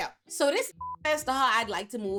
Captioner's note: beep